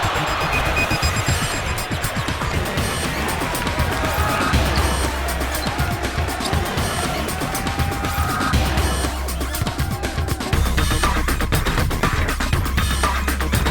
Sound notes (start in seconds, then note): 1.9 crowd applauding